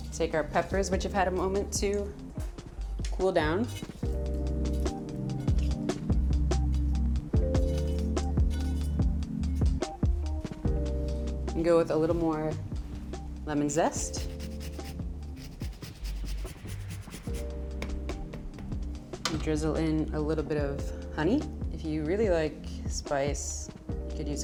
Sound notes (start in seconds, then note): 4.2 bright upbeat music continues; 14.0 lemon scrapes